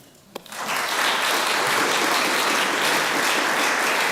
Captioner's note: applause